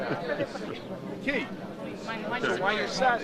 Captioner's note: overlapping chatter